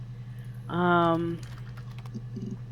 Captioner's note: mouth clicks